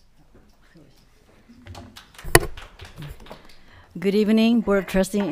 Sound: audience applauding

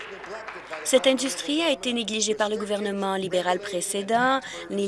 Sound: applause

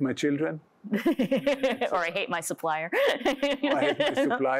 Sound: laughs

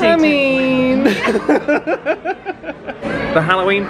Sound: laughing

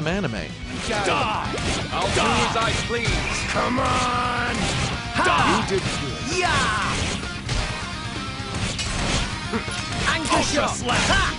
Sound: overlapping murder screams

